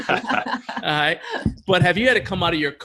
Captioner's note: laughing